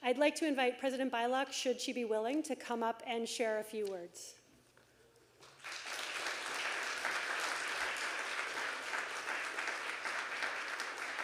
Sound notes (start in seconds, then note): 5.4 audience applauding